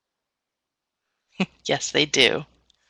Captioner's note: laughs